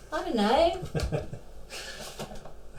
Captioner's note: Andrea laughs; Phil laughs